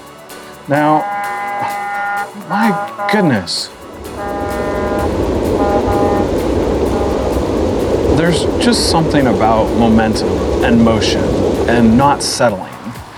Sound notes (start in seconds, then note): 1.0 horn; 3.7 horn; 5.0 train sounds; 12.9 footsteps